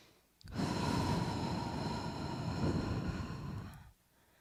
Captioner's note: breathes deeply